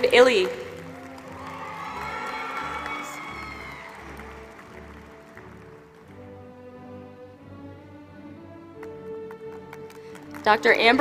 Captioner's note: applause